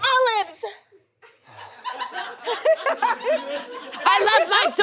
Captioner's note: audience laughs